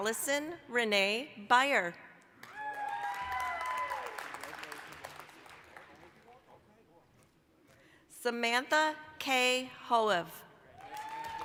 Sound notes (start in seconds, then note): 2.4 applause, cheering